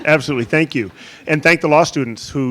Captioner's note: audience chuckling